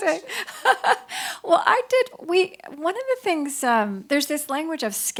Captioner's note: laughs